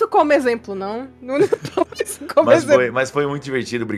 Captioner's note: laughs